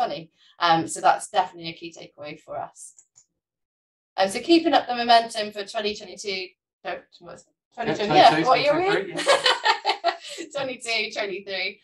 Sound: laughter

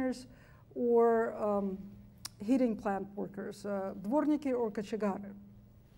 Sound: speaks foreign language

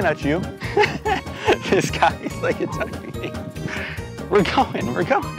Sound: laughs

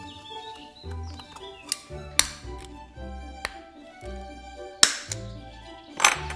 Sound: hole punch snaps

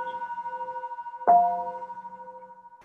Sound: chime

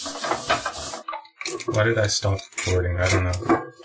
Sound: click

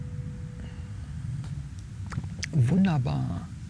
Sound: gong

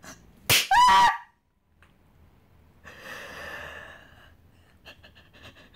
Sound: slap; yelp; sobs

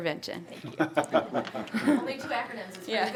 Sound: some Board members laughing

